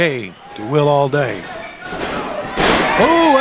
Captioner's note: body slamming, crowd cheering